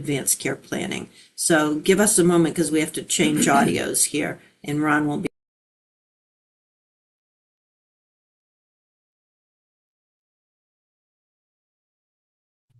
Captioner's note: pause